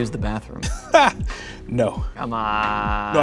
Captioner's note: laughs